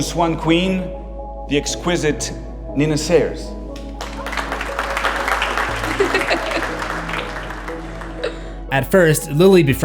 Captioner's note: Lily giggling